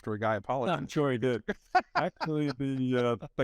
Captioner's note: laughing